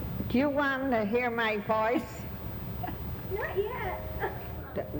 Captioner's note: laughing